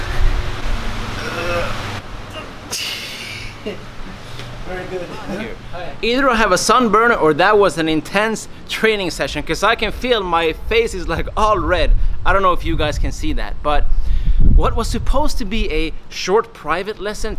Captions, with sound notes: (grunting) Very good. Either I have a sunburn or that was an intense training session. 'Cause I can feel my face is like, all red. I don't know if you guys can see that, but, what was supposed to be a short private lesson